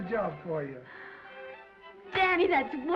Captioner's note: Esther gasps